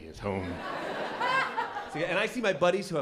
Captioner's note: laughter